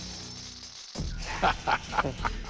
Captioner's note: chuckling